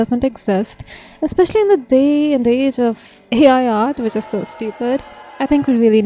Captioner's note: crowd boos